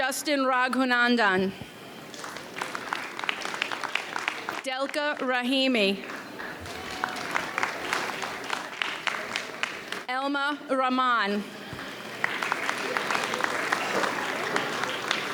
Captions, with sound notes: Justin Ragunandan. (audience applauds) Delka Rahimi. (audience cheers) Elma Raman. (audience applauds)